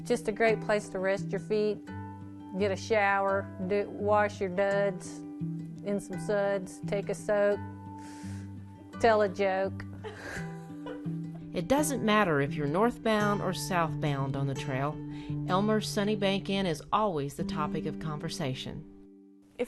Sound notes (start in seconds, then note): 10.1 laughing